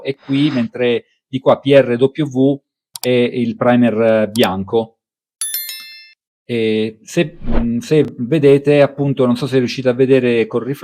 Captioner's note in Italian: campana